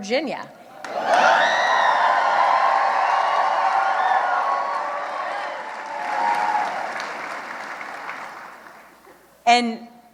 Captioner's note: cheering